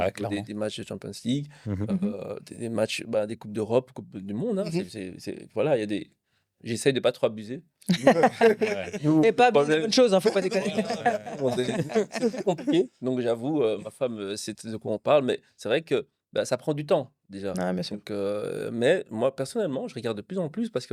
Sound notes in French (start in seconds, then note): 7.8 rires